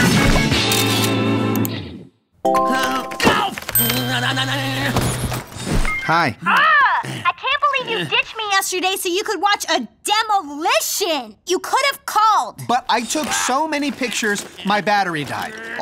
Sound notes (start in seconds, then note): 2.4 phone ringing